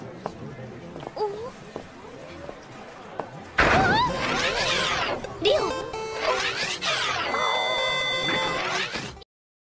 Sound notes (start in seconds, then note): 4.0 mechanical whirring; 7.7 intense mechanical whirring